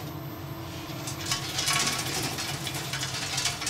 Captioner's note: the crackling of the beans